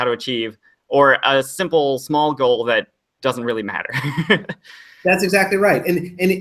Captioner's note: laughs